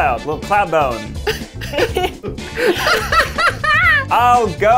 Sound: both laughing

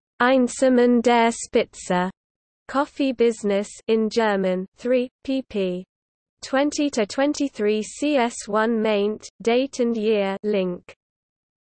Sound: in German

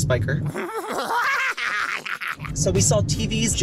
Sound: mad laughter

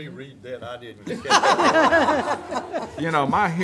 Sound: laughing

